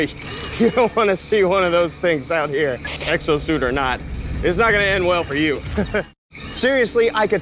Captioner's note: laughs